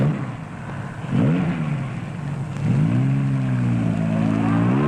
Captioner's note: engine revving